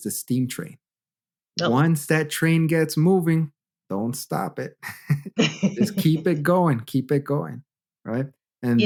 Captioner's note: laughter